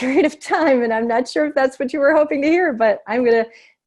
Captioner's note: laughter